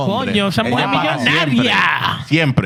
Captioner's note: speaking Spanish